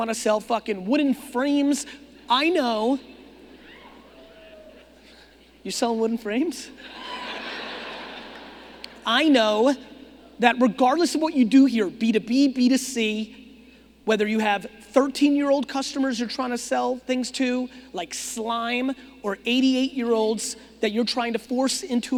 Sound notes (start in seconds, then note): 3.4 audience murmuring; 6.8 audience laughing